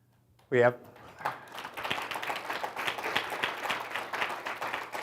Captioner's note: audience applauds